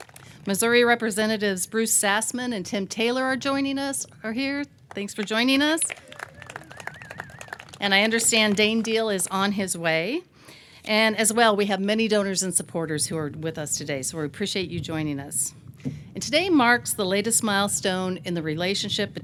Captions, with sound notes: Missouri representatives Bruce Sassmann and Tim Taylor are joining us, are here. Thanks for joining us. (audience clapping) And I understand Dane Diehl is on his way and as well, we have many donors and supporters who are with us today. So, we appreciate you joining us. And today marks the latest milestone in the relationship